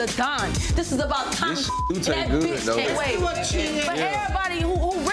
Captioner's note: overlapping chattering